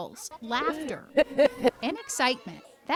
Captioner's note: laughing